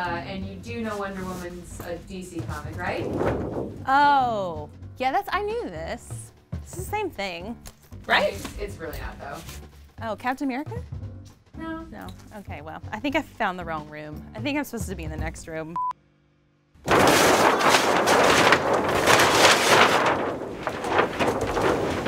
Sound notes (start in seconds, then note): 15.9 monotonous high pitch sound; 16.8 paper ripping